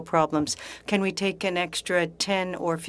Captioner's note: speaking French